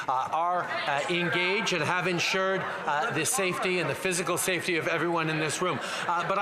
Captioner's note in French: voix de l'interprète